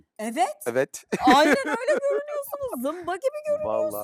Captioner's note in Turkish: kahkaha